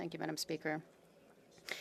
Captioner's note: speaking French